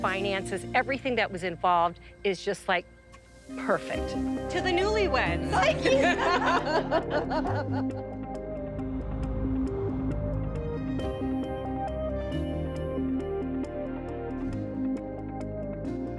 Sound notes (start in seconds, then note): 5.5 laughs; 9.4 dramatic music